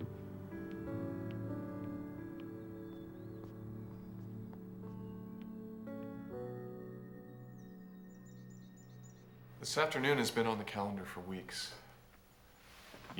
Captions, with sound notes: (BIRDS CHIRPING) This afternoon has been on the calendar for weeks.